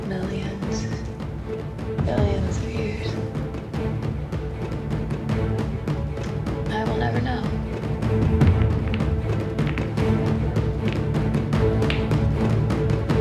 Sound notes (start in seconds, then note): 9.3 pool balls colliding